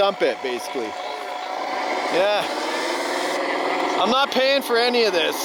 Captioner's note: engine roaring